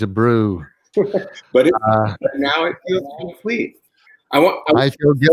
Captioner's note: laugh